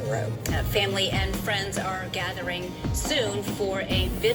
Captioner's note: on TV